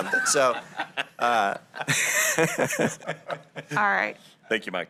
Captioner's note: laughter